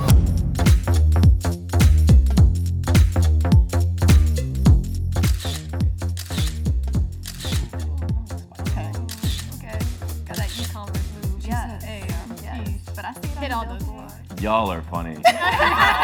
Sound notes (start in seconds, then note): 0.2 upbeat music; 7.2 camera shutter clicking